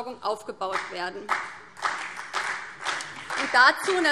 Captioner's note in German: Beifall BÜNDNIS 90/DIE GRÜNEN und CDU